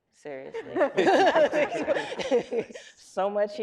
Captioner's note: all laughing